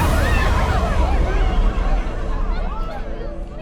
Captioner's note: crowd exclaims and converses